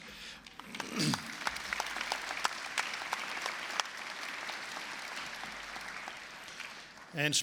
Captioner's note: applause